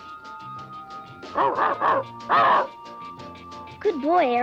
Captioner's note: Arrow barking